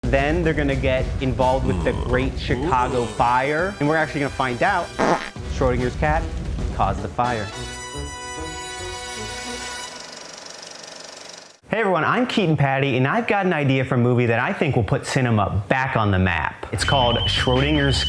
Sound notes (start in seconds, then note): 1.7 fart noise